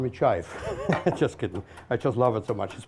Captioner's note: chuckles